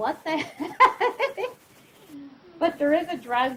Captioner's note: laughs